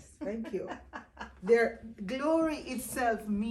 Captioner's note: laughing